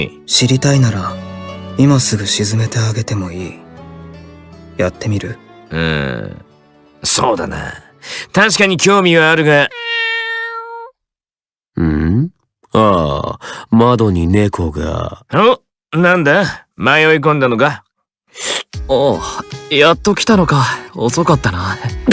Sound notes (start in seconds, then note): 9.6 meow~